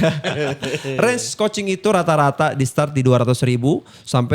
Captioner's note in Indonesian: tertawa